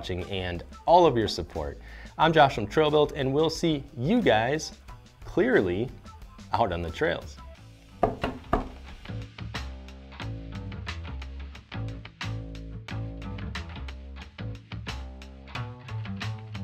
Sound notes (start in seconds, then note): 8.0 tapping; 9.5 upbeat music